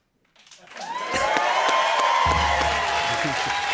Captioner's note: cheers and applause